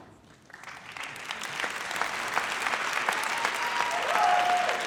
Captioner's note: audience applauds